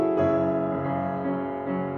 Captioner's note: none